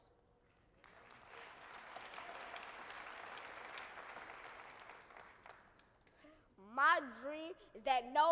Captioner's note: applause